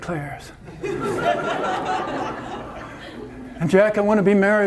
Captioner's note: audience laughter